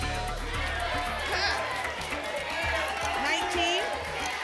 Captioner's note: audience shouting numbers